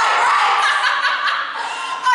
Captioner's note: APOLLO laughs